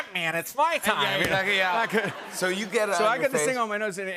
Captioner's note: laughter